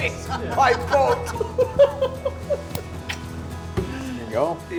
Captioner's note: laughing